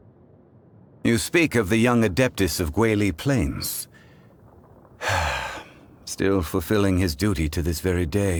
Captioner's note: sigh